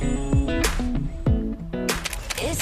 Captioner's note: heartbeats